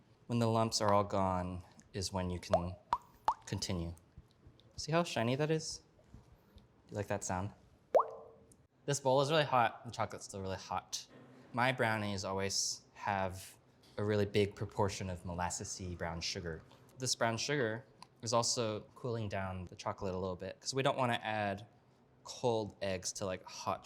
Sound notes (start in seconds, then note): 7.9 boink